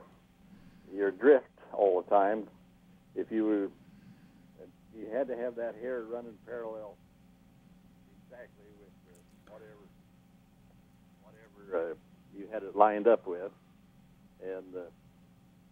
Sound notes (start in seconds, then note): 7.0 audio fades out